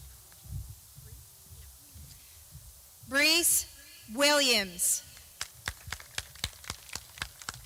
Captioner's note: clapping